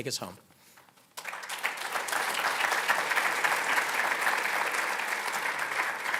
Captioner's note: applauding